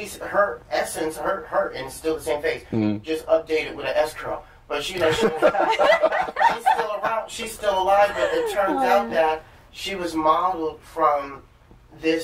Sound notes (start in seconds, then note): 5.0 laughter